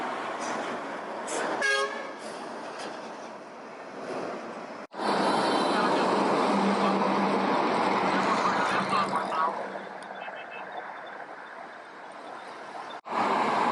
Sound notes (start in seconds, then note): 5.9 police sound